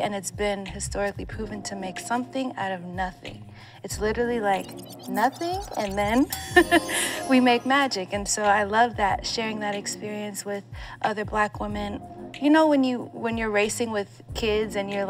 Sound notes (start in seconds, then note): 9.3 chuckles